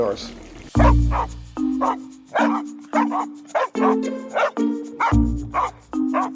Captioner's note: bouncy, playful music; dogs barking